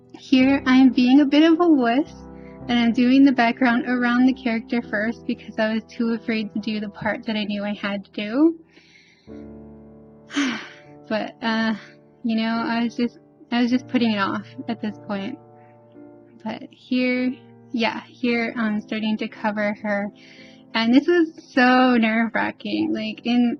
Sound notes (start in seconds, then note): 10.3 sigh